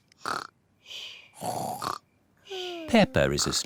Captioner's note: snores